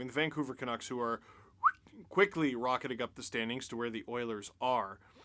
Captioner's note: whistles